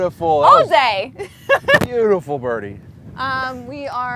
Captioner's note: laughs